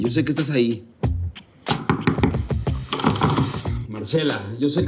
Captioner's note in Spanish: Toques en la puerta